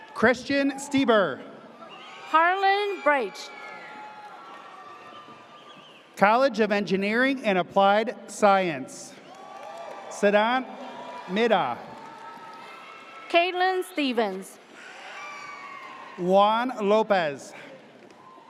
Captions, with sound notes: Christian Steber. - Harlan Briche. - College of Engineering and Applied Science. (audience cheers) Sedan Mida. - Kailyn Stevens. (audience cheers) - Juan Lopez.